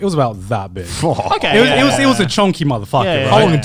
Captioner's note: shudders